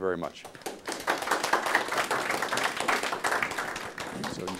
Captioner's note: applause